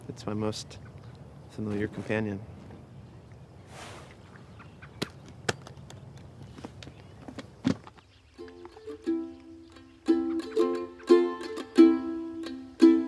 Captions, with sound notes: It's my most familiar companion. (case clicks) (bright mandolin music begins)